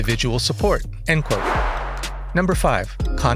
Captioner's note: whoosh; chill electronica continues